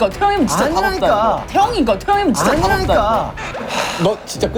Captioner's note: Gritando